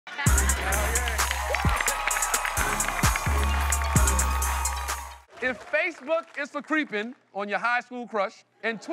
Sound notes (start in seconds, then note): 0.1 cheering, applauding